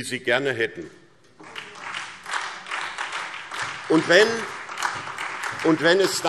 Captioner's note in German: Beifall SPD und Freie Demokraten